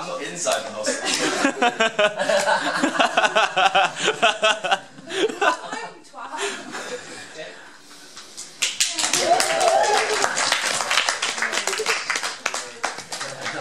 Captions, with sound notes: Well I'm not inside the hostel! Come home you twat! [APPLAUSE]